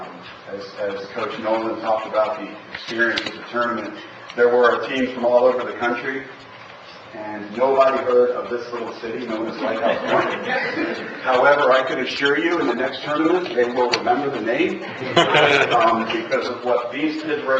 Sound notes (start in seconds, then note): 9.8 laughter